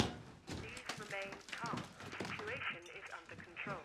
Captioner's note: intercom